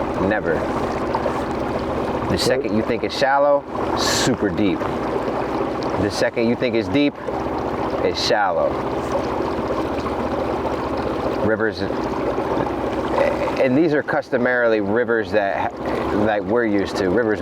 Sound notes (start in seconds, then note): 10.0 engine idling; 10.0 river babbling